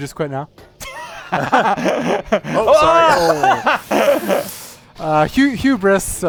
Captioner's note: laughter